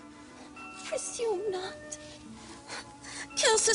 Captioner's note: Sottovoce